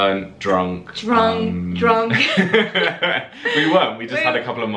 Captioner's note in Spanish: risas